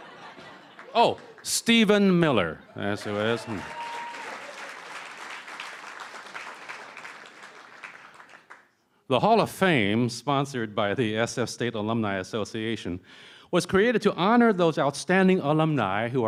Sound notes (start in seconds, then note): 4.8 cheering & Applause